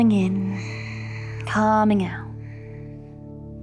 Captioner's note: inhales; exhales